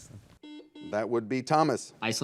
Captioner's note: buzzer